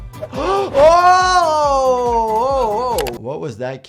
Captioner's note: gasps